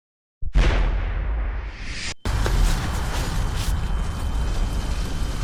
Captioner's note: explosion